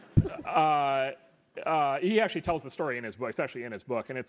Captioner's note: laugh